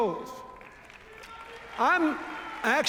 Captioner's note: cheers, applause